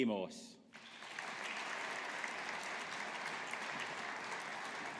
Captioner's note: audience applauding